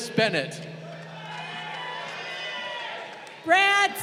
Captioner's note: crowd cheering